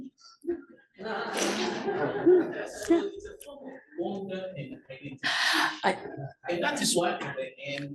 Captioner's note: laugh